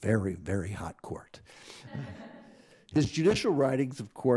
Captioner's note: crowd laughs